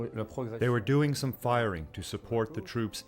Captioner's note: speaks in a foreign language